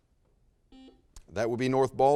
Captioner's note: buzzer sounds